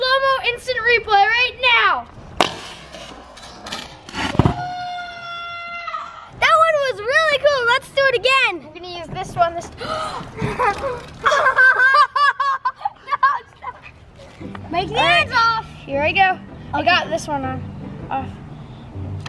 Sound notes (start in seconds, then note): 4.5 slow motion shouting; 9.8 gasps; 11.2 loud laughter